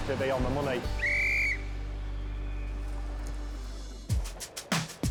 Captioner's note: whistle tweeting; mellow soft rock music